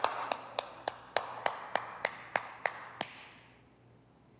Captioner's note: clapping